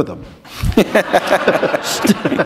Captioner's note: laughter